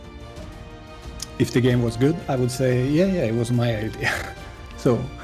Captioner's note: laughs